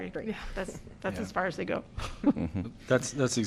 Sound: laughter

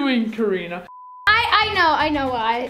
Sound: beeping

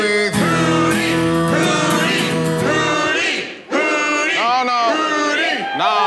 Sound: crowd

